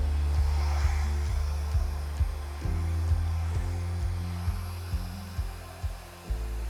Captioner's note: bright music; hair dryer whirring